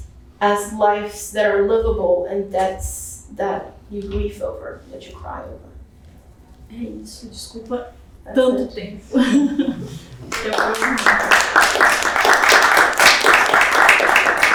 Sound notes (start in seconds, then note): 6.8 speaking portuguese; 9.1 chuckles; 10.2 applause